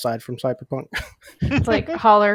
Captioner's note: laughs